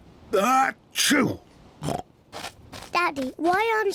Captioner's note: sneezes